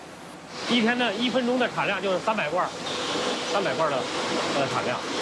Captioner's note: speaking in foreign language